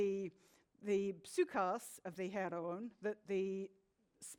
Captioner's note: speaks in foreign language